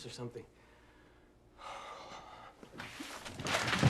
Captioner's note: sighs